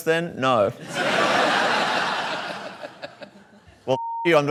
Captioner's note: laughter